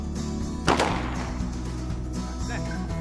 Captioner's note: gun shots